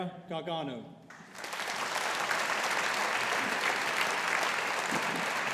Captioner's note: audience applauding